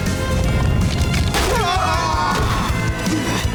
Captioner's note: screaming